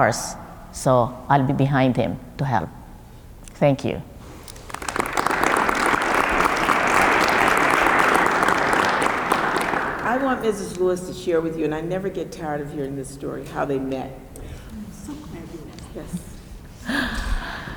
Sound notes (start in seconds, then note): 4.4 applause